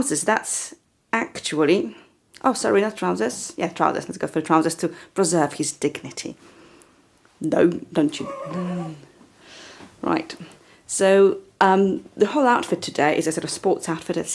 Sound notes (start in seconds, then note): 8.2 chuckles